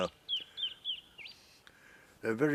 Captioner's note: birds chirping